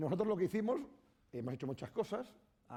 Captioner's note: speaking spanish